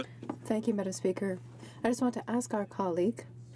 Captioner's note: speaking French